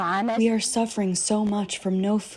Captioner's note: through translator